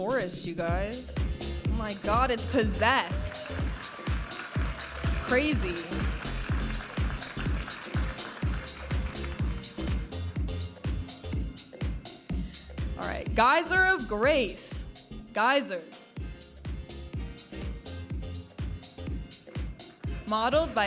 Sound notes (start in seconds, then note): 4.5 audience applauding and cheering; 6.9 vibrant music; 17.2 vibrant music